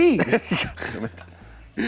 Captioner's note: laughs